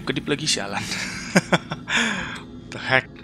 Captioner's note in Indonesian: ketawa